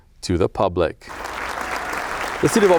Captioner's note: attendees clapping and cheering